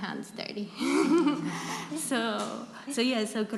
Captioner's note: laughter